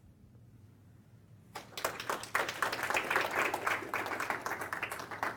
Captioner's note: applause